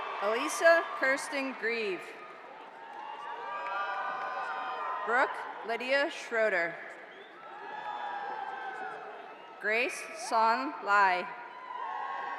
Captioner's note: cheers and applause